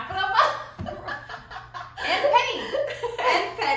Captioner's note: laughter